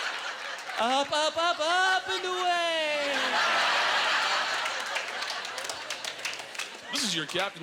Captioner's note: audience laughter